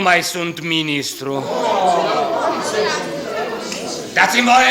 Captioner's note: exclamations of disappointment